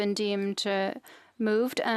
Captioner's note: speaking French